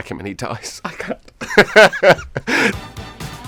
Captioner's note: laughter